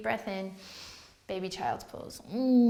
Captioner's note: inhale